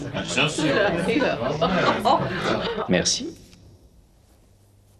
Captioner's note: murmuring